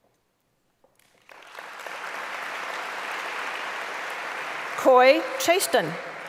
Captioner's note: applause